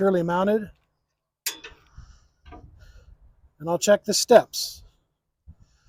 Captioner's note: metal clanking